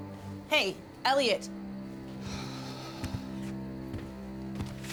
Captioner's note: sighs